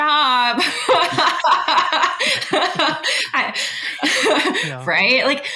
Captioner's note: both laughing